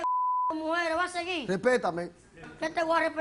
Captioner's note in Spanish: Bip